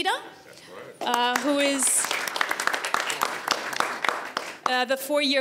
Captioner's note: audience applauds